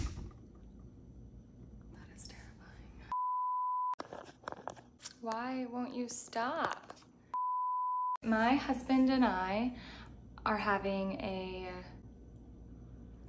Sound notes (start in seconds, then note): 1.8 whispers